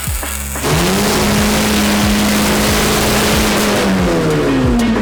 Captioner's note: engine Roars Loudly